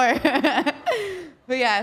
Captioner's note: Liv laughing